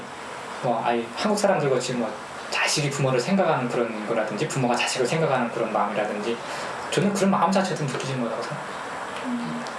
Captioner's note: speaking in foreign language